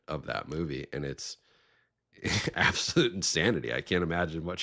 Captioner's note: chuckling